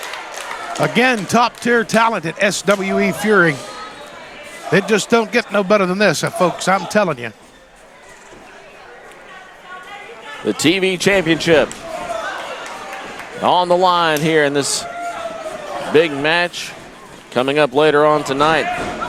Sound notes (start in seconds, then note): 0.0 crowd cheering; 11.6 crowd cheering